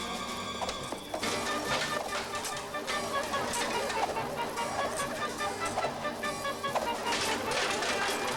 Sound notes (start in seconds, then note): 1.2 armor and shields clanking